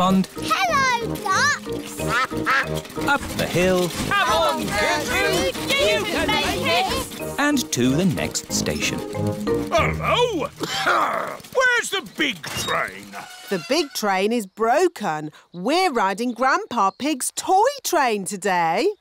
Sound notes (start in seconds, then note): 2.0 quacking; 9.7 coughs